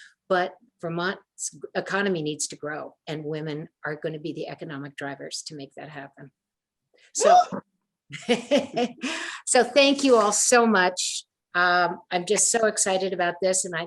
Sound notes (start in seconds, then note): 8.1 laughs